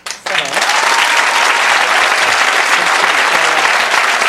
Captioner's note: audience clapping